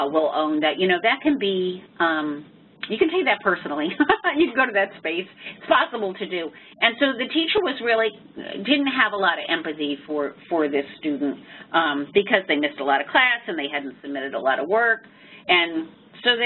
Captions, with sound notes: will own that that can be, you can take that personally. [LAUGH] You can go to that space, it's possible to do. And so, the teacher didn't really have a lot of empathy for this student, because they missed a lot of class and they hadn't submitted a lot of work. And so, they